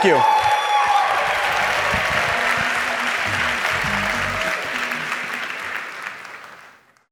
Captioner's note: applause